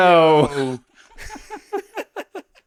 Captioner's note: laughing